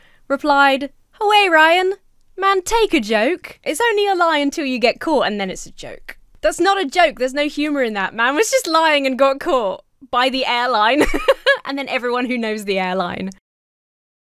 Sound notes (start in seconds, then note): 10.9 laughs